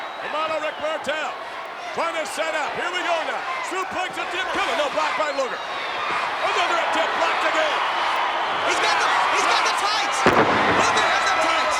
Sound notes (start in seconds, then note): 9.8 wrestlers thudding